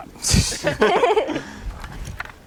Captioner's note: laughs